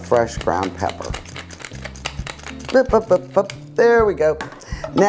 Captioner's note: pepper mill grinding